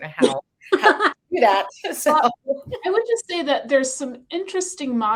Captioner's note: lady laughing